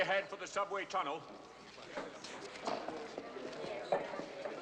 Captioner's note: people Chattering